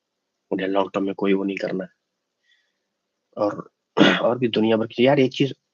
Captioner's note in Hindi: गला साफ़ करने की आवाज़